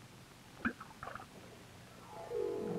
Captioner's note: plunk-- splashing water